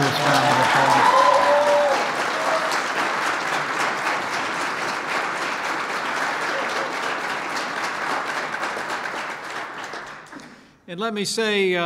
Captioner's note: applause